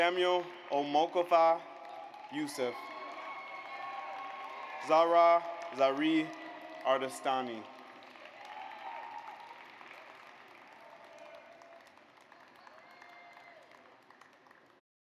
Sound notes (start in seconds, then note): 3.2 audience applauds; 8.6 audience applauds